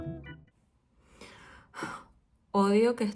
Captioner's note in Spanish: Suspira